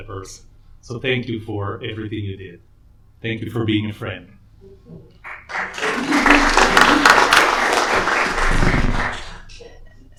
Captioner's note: applause